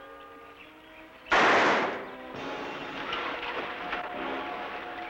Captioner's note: gun firing